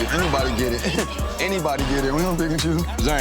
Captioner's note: laughs